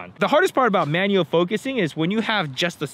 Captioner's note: none